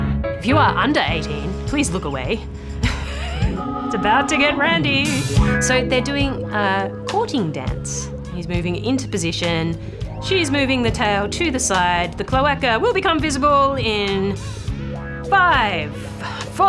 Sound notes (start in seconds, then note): 2.8 laughs